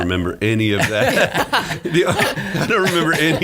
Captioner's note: laughing